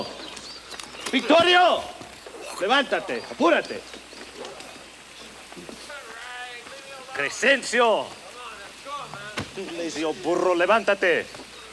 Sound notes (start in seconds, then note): 2.3 Bruto speaks Spanish; 10.8 speaks Spanish